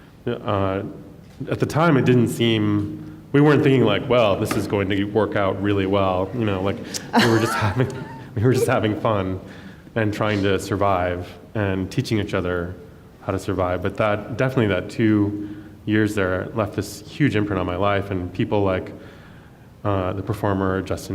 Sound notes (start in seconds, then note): 6.9 laughs